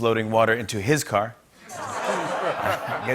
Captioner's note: laughter